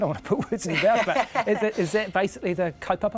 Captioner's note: chuckles